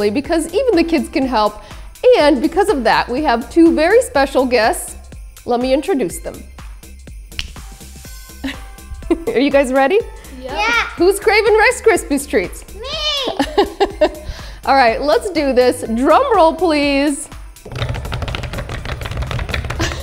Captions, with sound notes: because even the kids can help. And because of that, we have two very special guests. Let me introduce them. (fingers snap) (chuckling) Are you guys ready? - Yeah! - Yup. Who's craving Rice Krispies Treats? - Me! - (laughs) All right. Let's do this. Drum roll, please. (hands thumping)